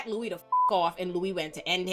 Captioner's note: beep